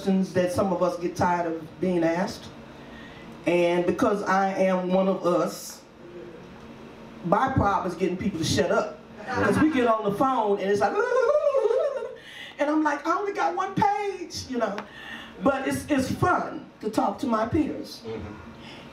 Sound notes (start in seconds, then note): 10.9 audience laughs; 11.1 imitates cartoon talking